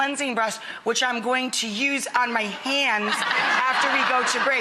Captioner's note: laughing